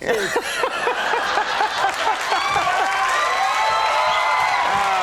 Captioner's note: audience cheers